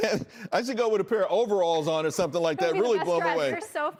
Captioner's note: laughter